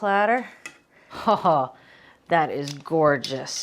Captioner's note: Julia chuckling